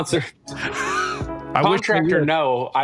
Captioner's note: laughing